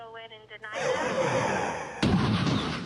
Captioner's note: explosion